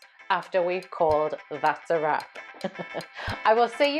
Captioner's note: laughs